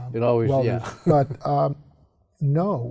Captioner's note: chuckles